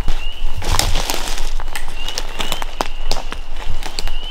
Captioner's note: branch crunches